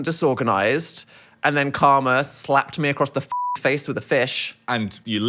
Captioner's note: beep